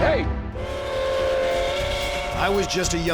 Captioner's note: train whistle